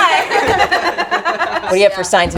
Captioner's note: group laughs